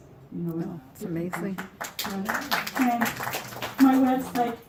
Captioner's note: applause